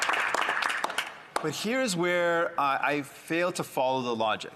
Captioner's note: some applause